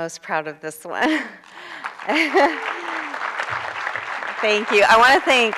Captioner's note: applause